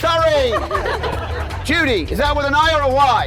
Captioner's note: audience laughing